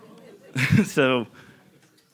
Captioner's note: giggling